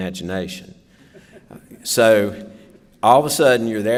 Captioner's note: laughter